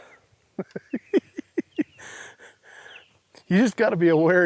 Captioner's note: chuckling